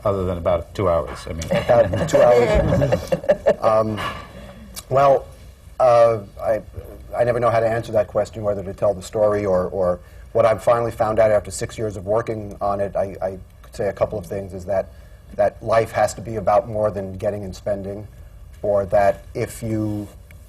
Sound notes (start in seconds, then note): 4.3 laughter